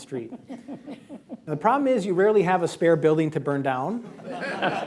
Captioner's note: laughter